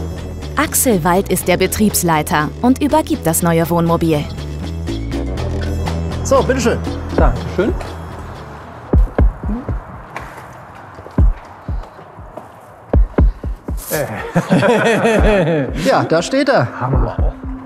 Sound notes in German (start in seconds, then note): 8.0 Musik verklingt; 13.9 Sie lachen freudig